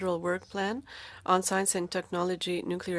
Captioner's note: speaking French